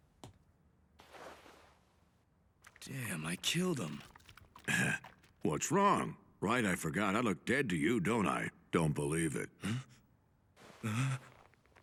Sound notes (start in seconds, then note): 4.5 clears throat; 10.7 gasps